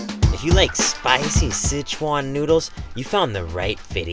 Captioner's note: uptempo jazzy music; voiceover